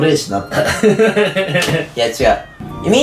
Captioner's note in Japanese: 笑い声